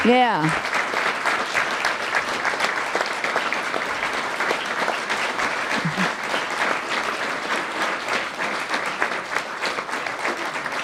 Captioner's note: applause